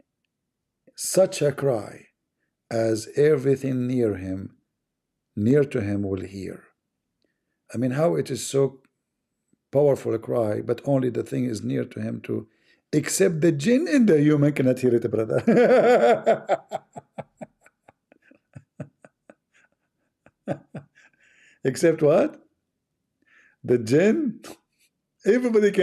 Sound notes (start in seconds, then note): 15.3 Ketawa